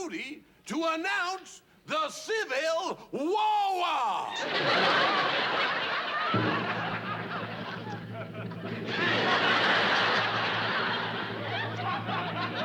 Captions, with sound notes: to announce the Civil War! [ Laughter ] [ Drum roll ] [ Laughter ]